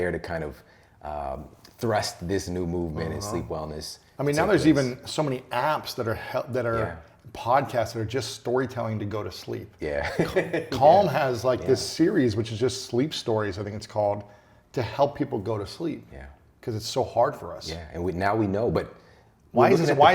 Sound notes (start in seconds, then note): 10.0 laughs